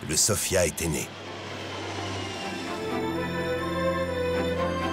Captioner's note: sound of airplane engines taking off